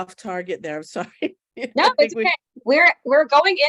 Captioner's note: laughing